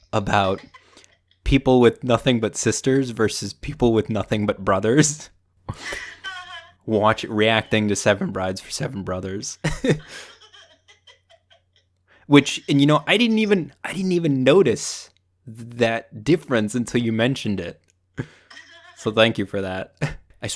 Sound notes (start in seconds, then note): 5.7 laughing; 9.5 laughs; 9.6 mom laughing